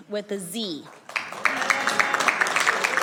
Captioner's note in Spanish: aplausos